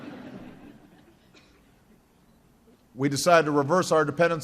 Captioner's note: laughter